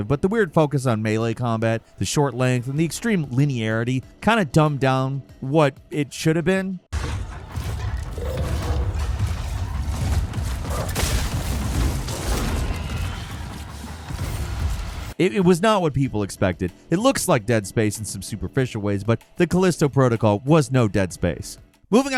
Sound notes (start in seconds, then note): 6.9 tense dramatic music; 8.1 monster grunting; 10.9 gun blasting